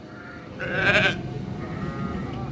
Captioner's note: bleating